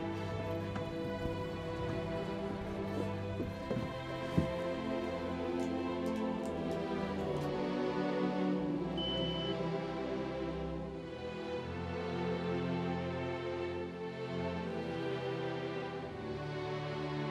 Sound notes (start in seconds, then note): 9.0 beeping